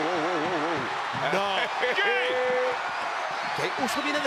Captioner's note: laugh